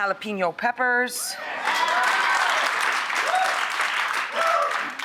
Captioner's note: applause